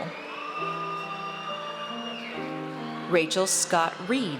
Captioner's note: audience cheers